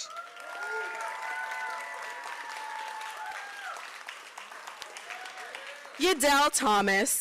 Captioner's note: applause